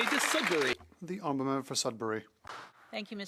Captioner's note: some Applause